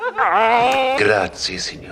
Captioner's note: Squidward grumbling